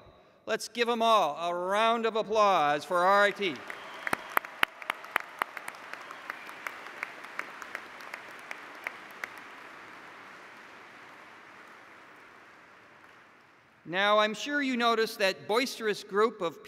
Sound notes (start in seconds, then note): 3.0 applause